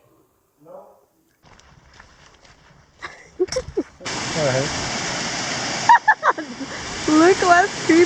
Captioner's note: laughs